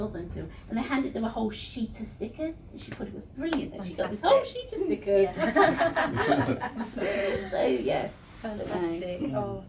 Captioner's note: laughter